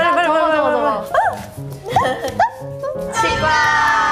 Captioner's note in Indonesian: Suara bayi anjing saat dia bahagia